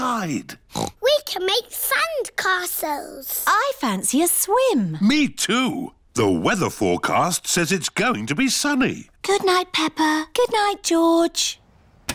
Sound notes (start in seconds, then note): 0.7 oinks